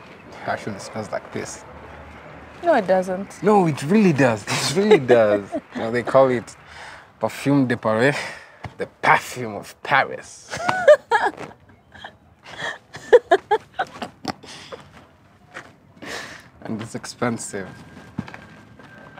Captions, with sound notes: It actually smells like piss. - No, It doesn't. - No, it really does. It really does You know, they call it "Parfum de Paris." "The perfume of Paris." [Laughs] And it's expensive